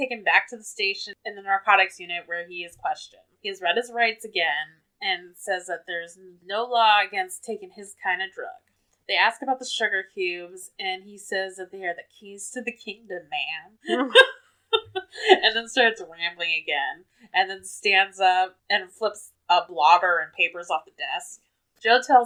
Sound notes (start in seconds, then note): 14.7 laughs